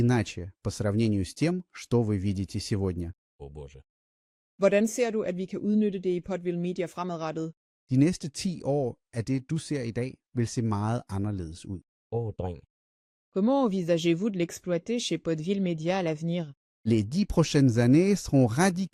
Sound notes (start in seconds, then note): 4.7 speaking Danish